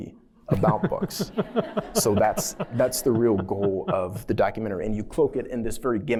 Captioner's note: laughter